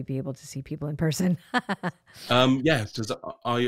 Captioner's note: laughs